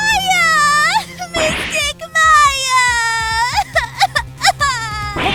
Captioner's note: sobbing!